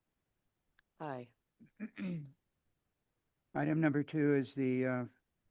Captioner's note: clears throat